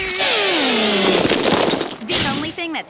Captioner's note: crumbling